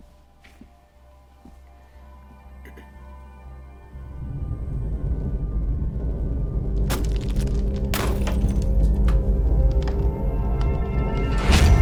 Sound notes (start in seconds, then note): 2.2 mysterious atmospheric synth; 6.9 picture smashes